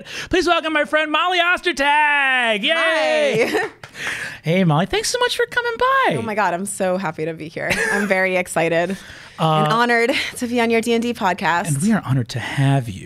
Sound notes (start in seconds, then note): 3.8 claps; 9.4 laughs